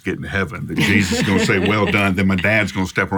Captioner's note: laughs